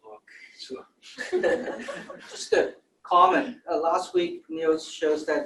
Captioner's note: laughter